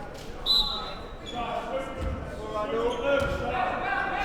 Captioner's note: whistle blows